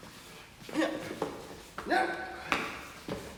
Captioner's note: grunting